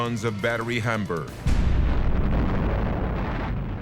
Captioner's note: boom